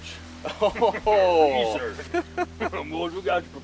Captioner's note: laughs